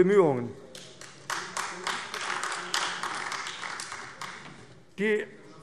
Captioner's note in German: Beifall AfD